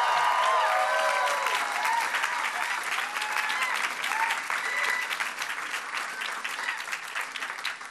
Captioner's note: cheers and applause